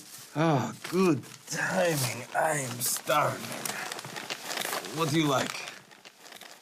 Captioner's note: none